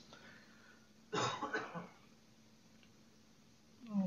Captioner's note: pause